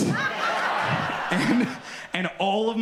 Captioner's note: audience laughs